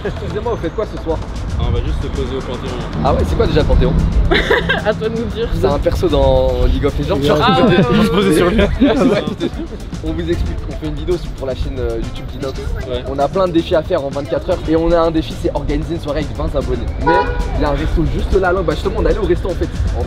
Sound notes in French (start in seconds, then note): 4.2 rire; 7.3 rires